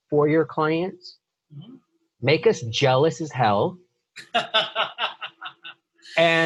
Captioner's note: laughing